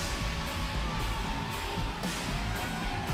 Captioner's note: bell